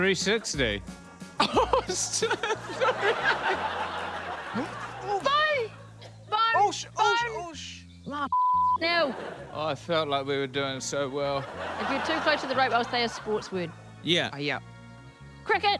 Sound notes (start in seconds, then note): 11.0 audience laughs